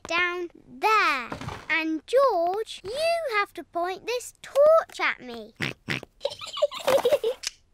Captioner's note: snorts; giggling